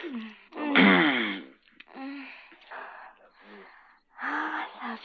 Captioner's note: clears throat